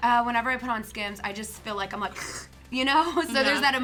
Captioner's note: slurps